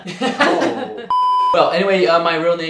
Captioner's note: beep